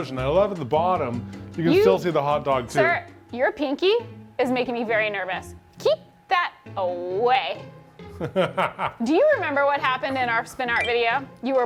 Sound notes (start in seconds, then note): 8.1 laughs